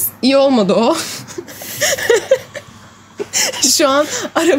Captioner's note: chuckling